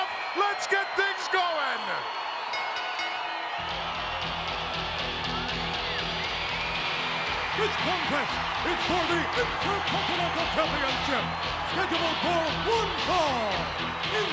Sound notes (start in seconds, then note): 2.1 crowd cheering; 2.5 bell dinging; 3.8 upbeat rock music